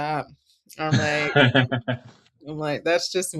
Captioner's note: laughing